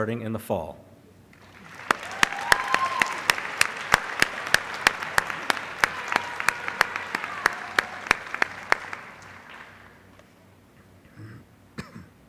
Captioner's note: applause